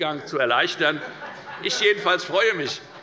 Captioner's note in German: Heiterkeit